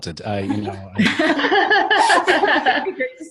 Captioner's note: laughter